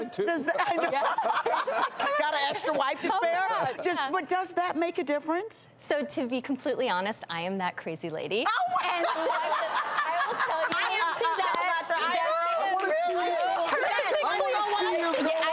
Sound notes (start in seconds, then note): 0.6 laughing; 8.8 laughter